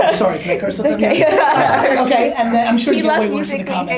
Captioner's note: girls laughing